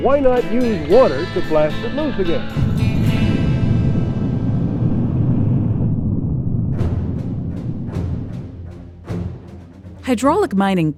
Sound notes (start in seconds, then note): 3.4 water blasting; 8.4 intense orchestral music